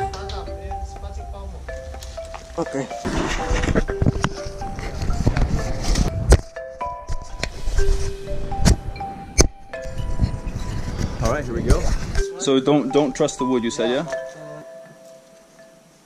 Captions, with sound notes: Okay. (shuffling) - Alright, here we go. So, don't trust the wood, you say, yeah?